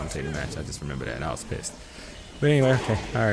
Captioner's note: beep